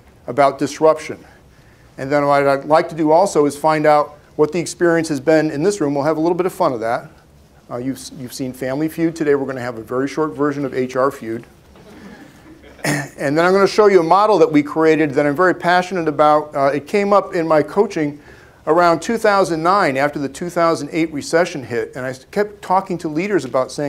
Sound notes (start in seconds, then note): 11.8 laughter